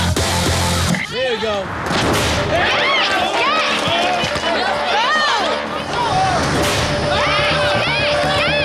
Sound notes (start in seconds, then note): 0.0 rock music; 2.4 contestants cheering